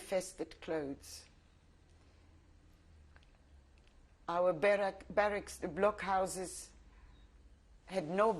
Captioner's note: pauses for 3 seconds